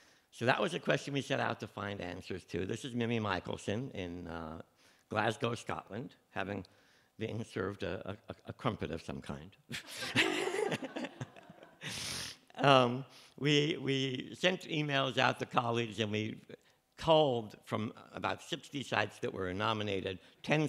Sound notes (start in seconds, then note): 9.7 laughter